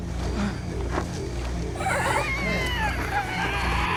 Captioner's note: animal shrieks